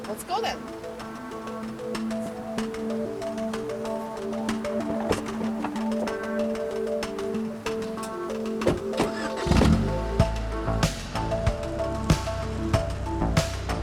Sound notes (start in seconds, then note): 5.1 car doors open; 7.6 car starts; 8.6 car doors slam; 10.5 moody synth music